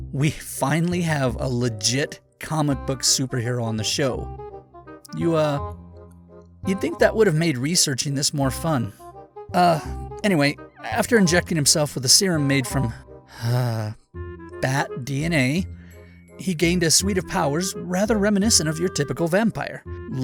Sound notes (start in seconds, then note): 13.3 sigh